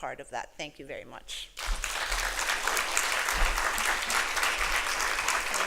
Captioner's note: applause